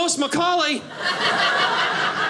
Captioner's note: audience laughing